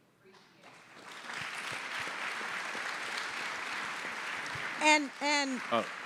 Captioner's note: audience applauding